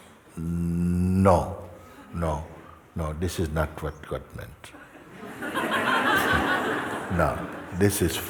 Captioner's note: laughter